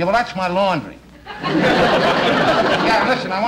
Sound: audience Laughing

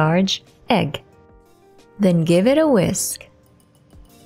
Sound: fork thudding, Music

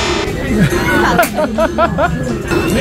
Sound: seriously laughing

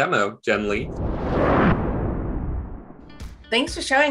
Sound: whooshing

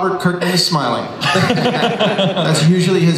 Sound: Chris laughs

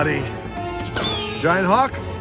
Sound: tattoo screeches

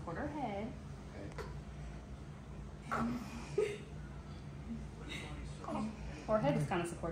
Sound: cooing

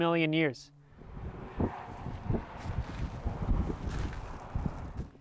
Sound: wind noise

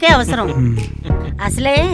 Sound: Balu laughing

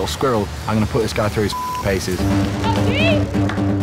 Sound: beep

